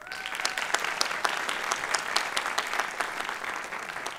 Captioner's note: applause